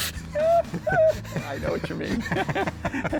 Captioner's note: both laughing